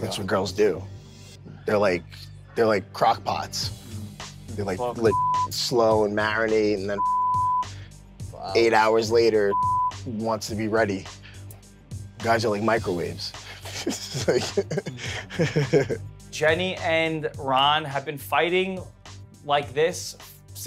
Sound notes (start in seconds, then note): 5.1 beep; 6.9 beep; 9.5 beep; 13.5 laughs